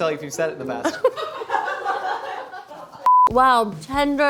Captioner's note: laughing